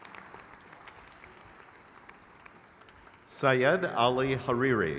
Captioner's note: crowd cheers